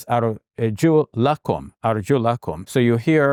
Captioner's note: speaking in Arabic